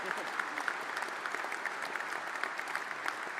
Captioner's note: applause